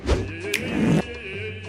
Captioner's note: fartwithreverbreversed.mp3